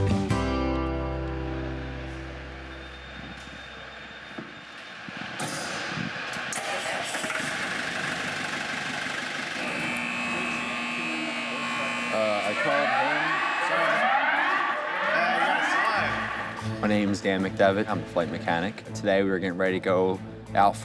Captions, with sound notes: (engine rumbling) (buzzing) (alarm sounding) - My name is Dan McDevitt, I'm a flight mechanic. Today we were getting ready to go out